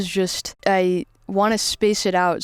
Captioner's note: none